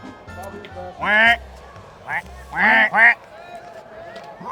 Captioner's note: quacking